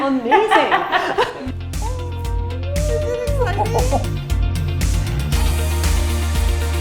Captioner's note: laughing; upbeat electronic pop music